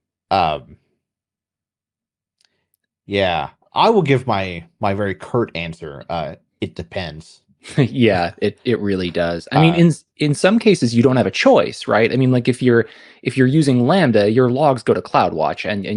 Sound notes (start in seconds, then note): 7.6 laugh